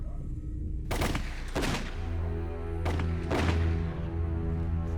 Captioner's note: gunfire